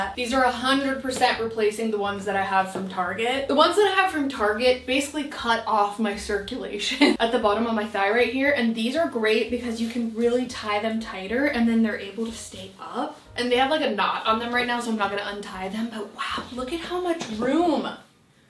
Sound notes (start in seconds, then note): 7.0 laughing